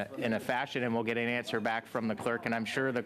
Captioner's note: conversation din